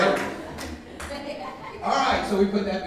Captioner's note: woman laughing